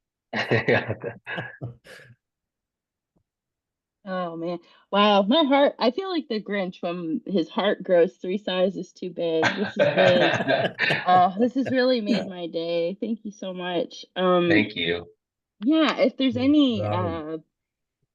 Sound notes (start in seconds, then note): 0.4 laugh; 9.4 laugh